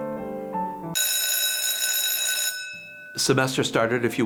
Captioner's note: bell ringing loudly